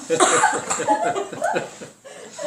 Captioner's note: laughter